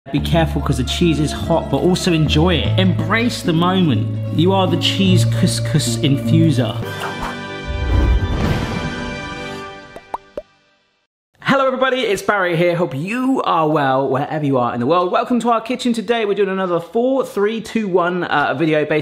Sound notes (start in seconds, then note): 6.9 graphic whooshes; 9.9 bubbles popping